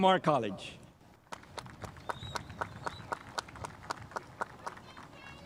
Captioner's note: spectators applauding